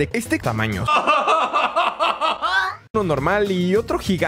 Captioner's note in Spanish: Risa de Dross